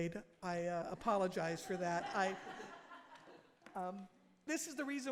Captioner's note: audience laughing